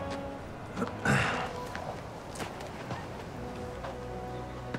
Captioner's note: Nicolas clears throat